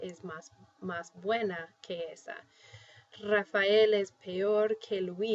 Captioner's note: speaking spanish